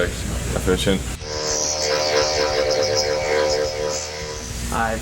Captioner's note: drill buzzing